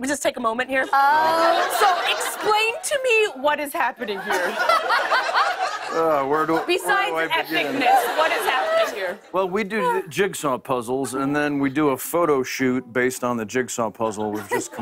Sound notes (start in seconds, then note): 0.8 laughter